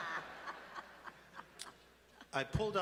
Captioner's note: laughter